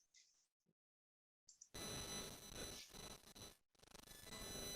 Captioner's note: static noise